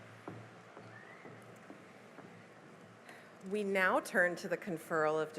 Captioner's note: none